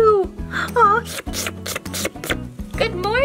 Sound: dog licking

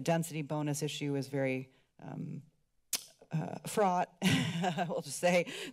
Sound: clicks tongue; laughs

